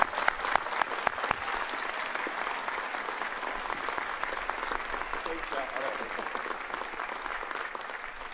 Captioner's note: applause